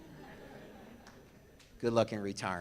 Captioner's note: audience laughs